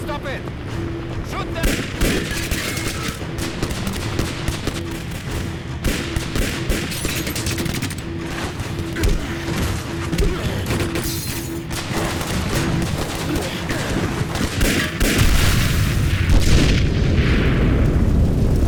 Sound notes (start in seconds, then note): 2.2 dramatic music; 2.2 guns firing; 15.0 explosion booming